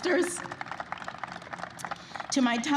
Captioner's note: applause